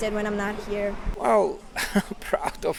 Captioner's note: chuckles